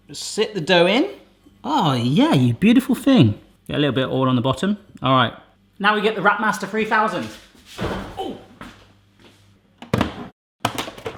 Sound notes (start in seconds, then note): 7.8 thuds